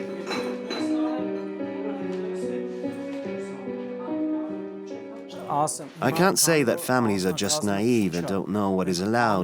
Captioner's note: voiceover